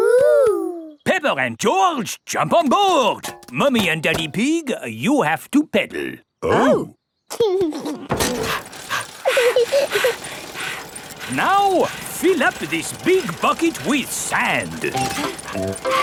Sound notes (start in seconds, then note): 8.2 mummy pig panting; 8.3 daddy pig panting; 8.6 chuckles; 8.8 peppa chuckles